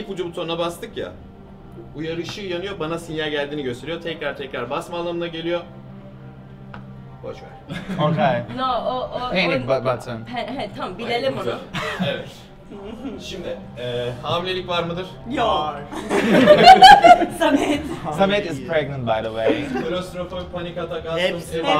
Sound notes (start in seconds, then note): 15.9 laughs